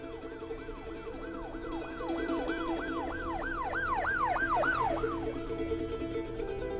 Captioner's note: sirens